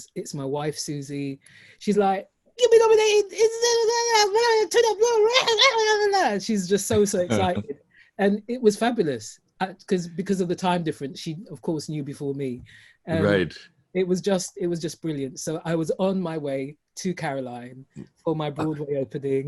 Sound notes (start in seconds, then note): 6.9 excitable sounds